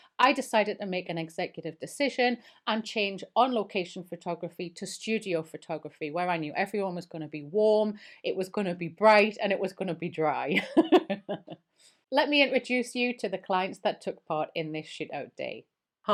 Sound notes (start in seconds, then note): 10.7 laughing